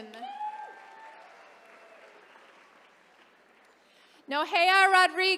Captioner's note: attendees cheering